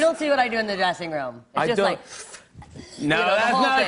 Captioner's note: inhales sharply